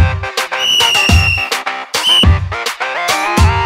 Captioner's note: Constable whistles